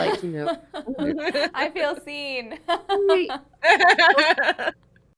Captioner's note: chuckles